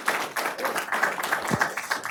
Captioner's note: applause